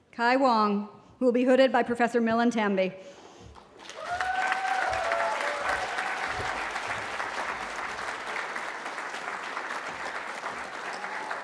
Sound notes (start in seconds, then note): 3.8 cheering